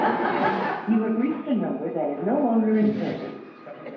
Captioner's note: computer Voice